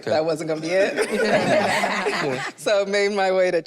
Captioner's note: group laughs